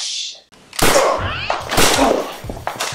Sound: bang!

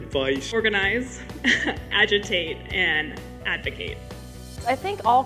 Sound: laughing

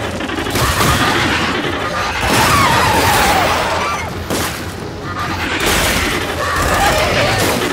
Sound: gunshots

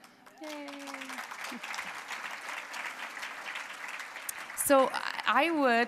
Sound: applause

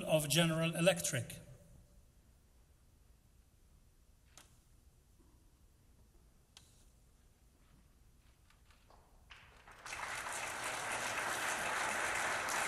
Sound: applause

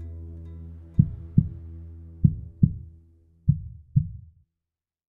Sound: heart beating sound

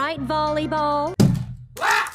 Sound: slam

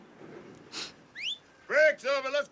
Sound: whistles

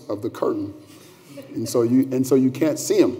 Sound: laughter

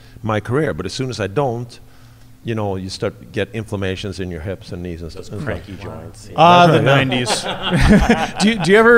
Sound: laughs

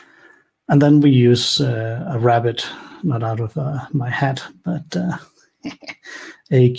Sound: laughs

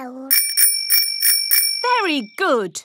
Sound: rings bell

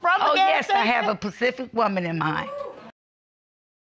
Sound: audience hooting

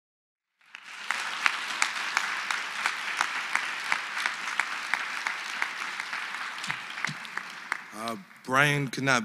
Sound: applause

